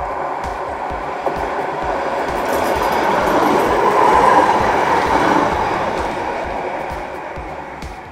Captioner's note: tram rumble